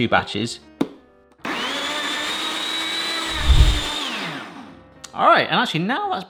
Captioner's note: blender whirring